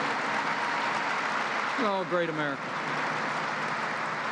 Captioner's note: applause